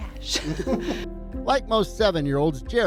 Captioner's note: laughing